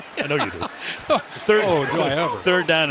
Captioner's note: laughter